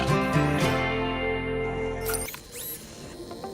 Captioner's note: robot noises